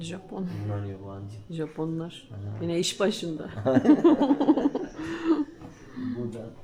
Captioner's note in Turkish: kahkaha